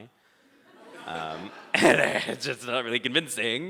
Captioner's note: audience laughing